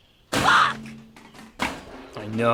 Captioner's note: trash can clangs